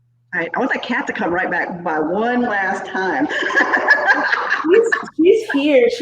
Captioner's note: laughs